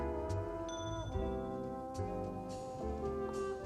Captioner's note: glasses clink